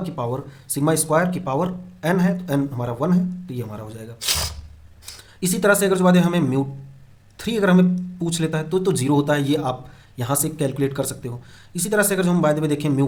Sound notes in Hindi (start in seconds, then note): 4.2 नाक से की जाने वाली आवाज़